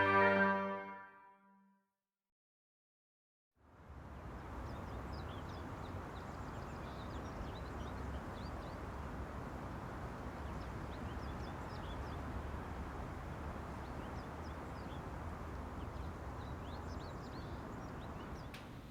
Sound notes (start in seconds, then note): 7.9 birds chirping